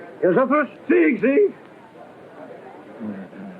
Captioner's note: speaking portuguese